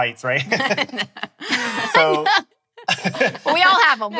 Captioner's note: laughing